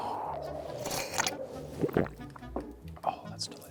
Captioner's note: slurping